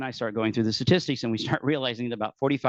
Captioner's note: laughing